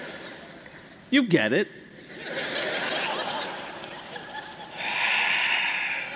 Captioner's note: laughter